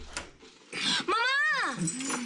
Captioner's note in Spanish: Sonido al abrir la puerta